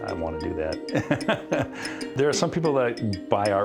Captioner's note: laughs